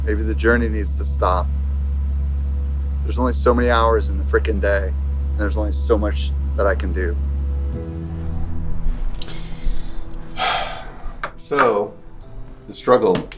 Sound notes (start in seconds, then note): 9.9 sighs